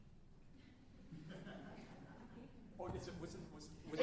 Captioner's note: alumni laughing